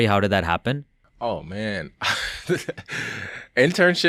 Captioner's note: laughs